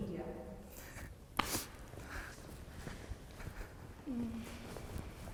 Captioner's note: footsteps thudding